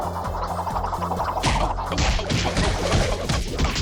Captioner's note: thud